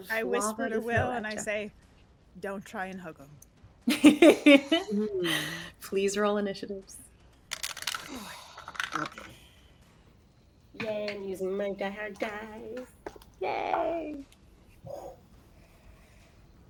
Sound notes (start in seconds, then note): 3.9 laughs